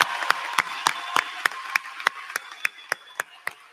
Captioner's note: applause